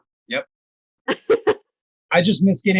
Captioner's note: laughing